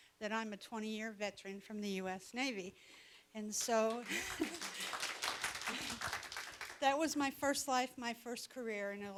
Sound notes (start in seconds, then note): 3.6 audience applauding